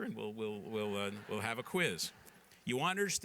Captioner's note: laughter